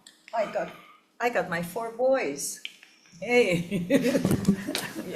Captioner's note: laughs